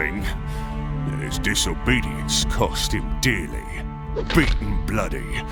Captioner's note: weapon crack